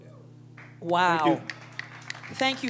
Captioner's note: applause